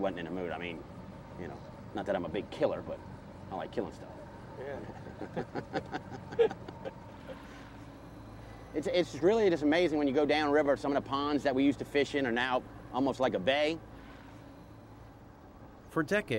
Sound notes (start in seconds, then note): 4.8 laughter